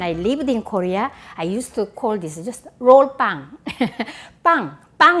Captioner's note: laughs